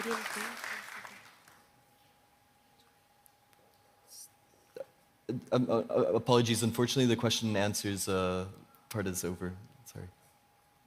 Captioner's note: applause